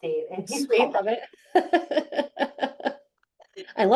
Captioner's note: chuckles